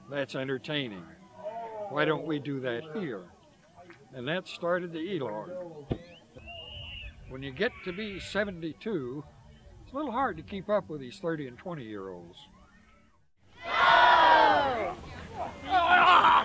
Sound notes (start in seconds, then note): 13.4 all shout